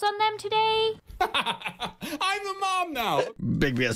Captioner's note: laughing